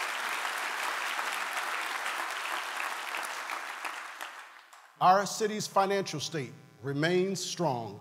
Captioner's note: applause